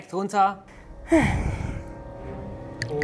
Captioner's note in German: Seufzen